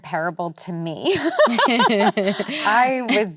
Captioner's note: both laughing